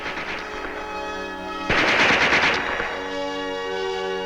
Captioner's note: gunshots booming